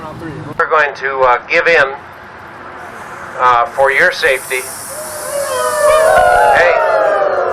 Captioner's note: band hisses in disagreement